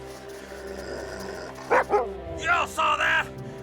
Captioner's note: Buck growling; barks